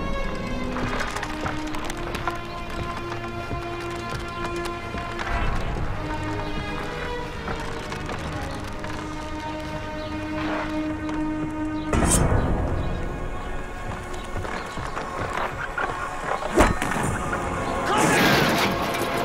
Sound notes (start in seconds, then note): 12.5 sword unsheathed; 13.2 running footsteps; 16.4 thwack